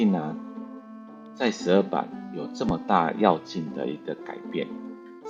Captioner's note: mispronunciation